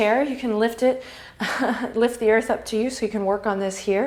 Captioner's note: laughs